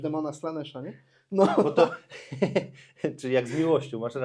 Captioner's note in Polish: śmiech